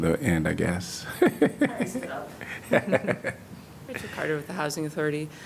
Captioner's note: laughter